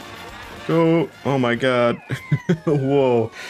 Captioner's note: laughs